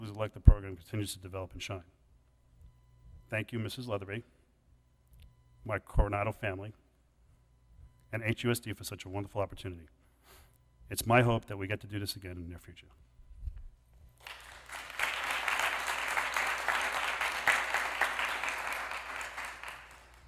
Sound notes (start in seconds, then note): 14.2 applause